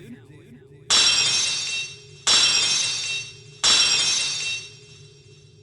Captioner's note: locks shattering!